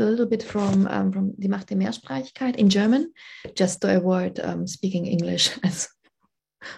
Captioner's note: speaking german